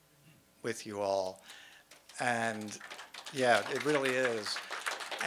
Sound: audience applauding

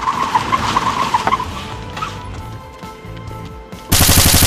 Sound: tires screeching

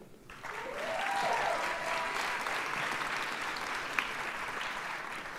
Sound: audience cheers and applauds

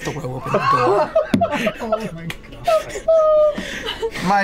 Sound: laughing; laughter

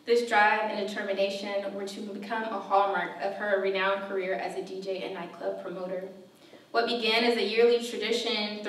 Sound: none

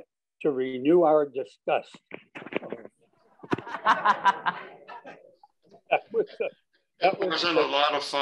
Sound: laughter

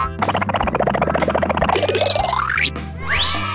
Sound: upbeat music; car gurgling; footsteps boinging

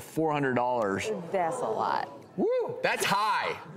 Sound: audience exclaiming

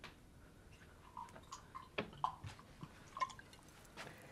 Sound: water pouring

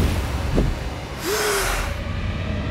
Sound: inhaling

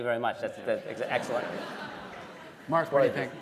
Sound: laughter

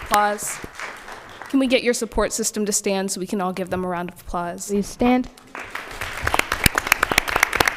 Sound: applause

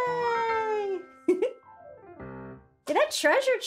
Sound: giggles

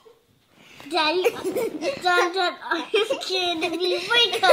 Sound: laughs

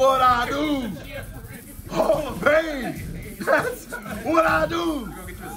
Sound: laugh

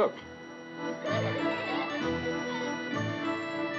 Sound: children Giggling

